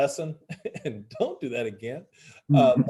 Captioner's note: laughs